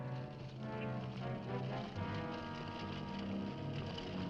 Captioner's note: dramatic music; horse hooves clopping; dramatic music